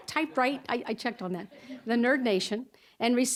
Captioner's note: audience chuckling